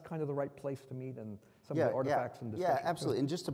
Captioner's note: faintly speaking